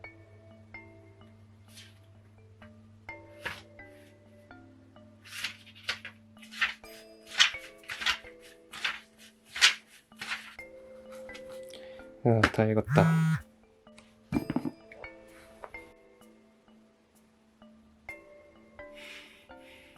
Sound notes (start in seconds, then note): 12.8 phone buzz